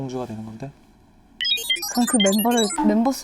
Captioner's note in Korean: 머리 굴리는 소리